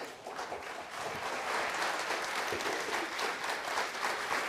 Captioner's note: audience applauds